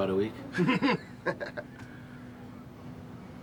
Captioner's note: Leek and Cortez laugh